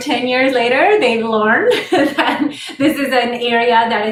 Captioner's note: laughter